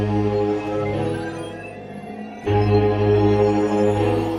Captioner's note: machine beeping